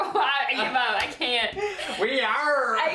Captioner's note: laughing